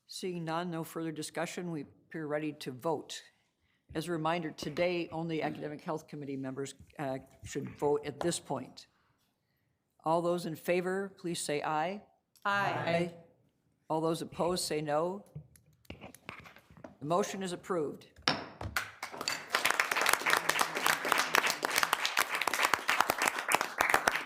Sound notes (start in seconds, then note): 18.2 gavel bangs; 18.7 people applauding